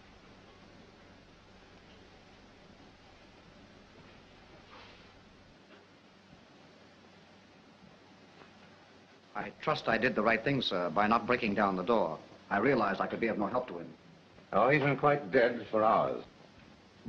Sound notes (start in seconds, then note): none